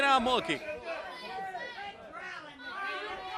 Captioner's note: crowd chatter